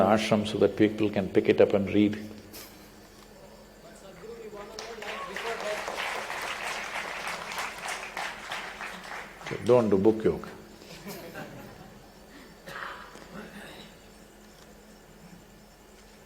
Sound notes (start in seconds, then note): 4.4 applause; 4.6 laughs; 10.8 laughter